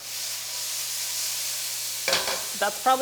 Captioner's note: bacon sizzles